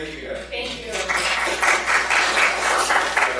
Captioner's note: applause